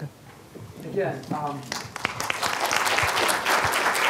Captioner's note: applause